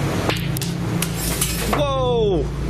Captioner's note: clattering